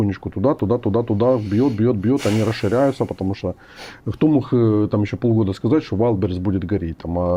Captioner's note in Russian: фыркает